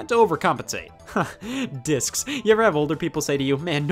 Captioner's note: laughing